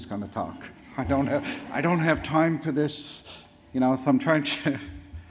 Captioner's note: audience laughs